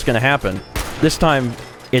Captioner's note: blam!